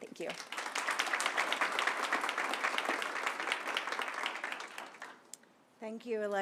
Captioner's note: applause